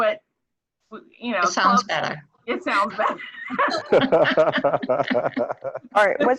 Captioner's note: laughter